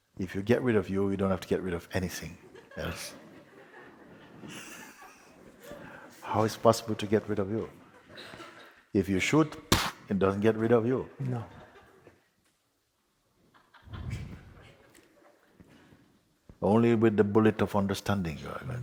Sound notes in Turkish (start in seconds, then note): 4.1 hafif kahkaha, Mooji hafifçe güler; 13.5 Seyirciden hafif kahkaha